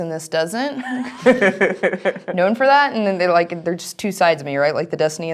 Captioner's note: laugh